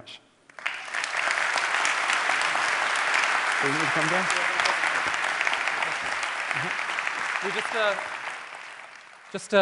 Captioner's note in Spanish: Aplausos